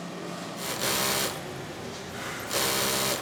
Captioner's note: the sewing machine rattles